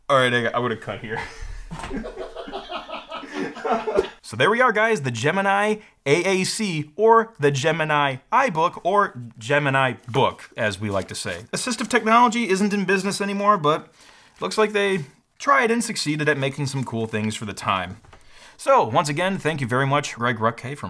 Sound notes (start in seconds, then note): 1.1 laughter